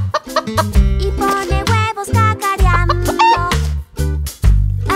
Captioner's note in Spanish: Sonido de gallina; Sonido de gallina